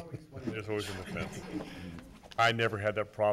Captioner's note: man laughs